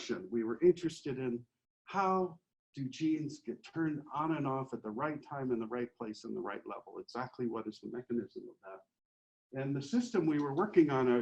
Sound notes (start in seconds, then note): 8.5 faintly speaking